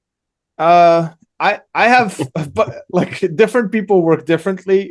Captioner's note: laughs